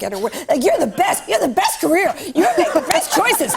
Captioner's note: laughter